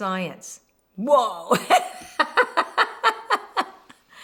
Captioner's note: laughs